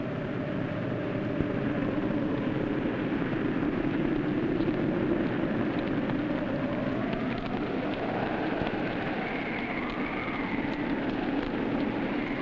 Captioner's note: wind blowing